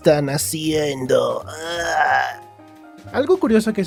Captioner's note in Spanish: Aeaerhhh